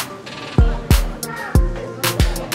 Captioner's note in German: Leises Stimmengewirr